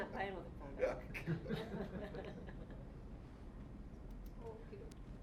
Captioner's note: audience chuckling